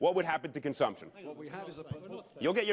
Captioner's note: chatter